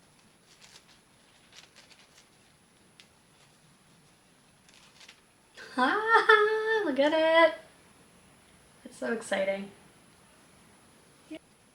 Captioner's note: scratching